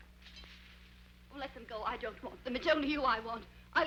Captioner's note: pearls clattering